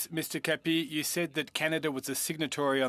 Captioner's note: speaking French